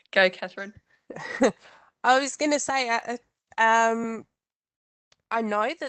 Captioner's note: chuckles